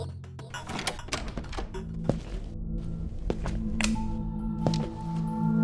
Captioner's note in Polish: odgłosy otwierania drzwi i kroków